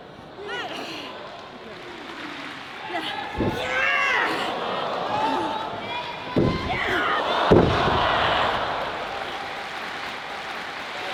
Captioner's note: applause